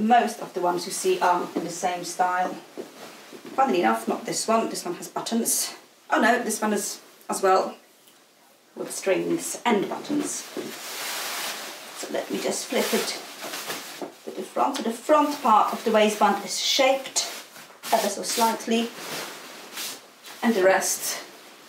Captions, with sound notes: So most of the ones you see are in the same style. Funnily enough, not this one. This one has buttons. Oh no, this one is as well with strings and buttons. (skirt rustling) So let me just flip it to the front of the front part of the waistband is shaped ever so slightly and the rest it's back